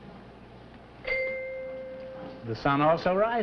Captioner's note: bell rings